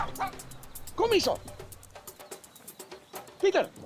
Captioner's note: speaking foreign language